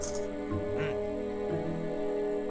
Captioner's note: photo snap sound; old man grunts